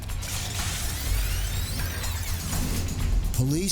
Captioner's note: tape reel whirring